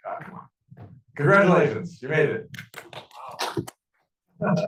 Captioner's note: clapping